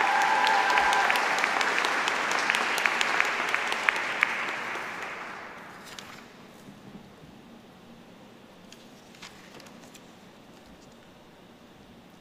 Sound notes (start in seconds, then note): 0.0 applause